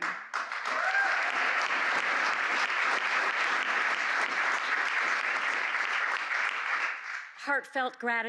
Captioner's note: applause